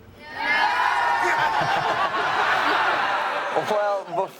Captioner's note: everyone laughs